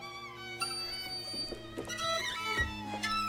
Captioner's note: none